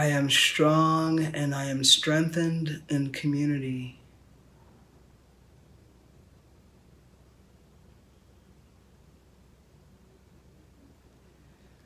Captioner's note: silence